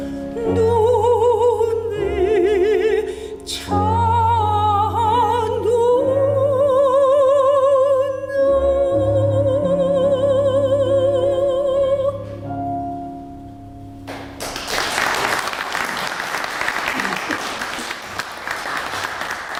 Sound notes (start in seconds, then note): 14.0 applause